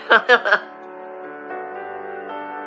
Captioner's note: lauaughs